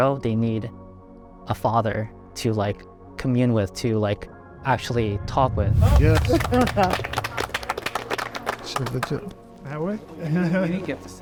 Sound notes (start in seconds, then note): 5.9 everyone applauding